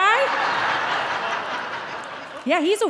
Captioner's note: audience laughing